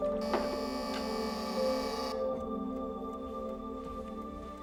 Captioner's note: doorbell buzzing